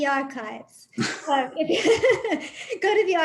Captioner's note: laughs